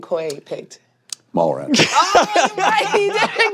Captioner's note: all laughing